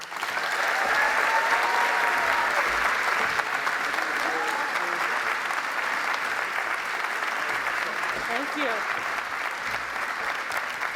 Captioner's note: applause